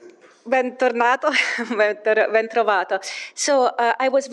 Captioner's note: person speaking in Italian